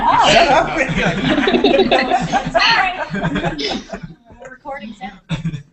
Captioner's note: laughter